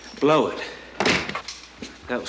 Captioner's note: door slams